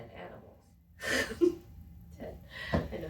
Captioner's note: laughs